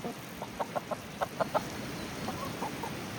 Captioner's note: hens clucking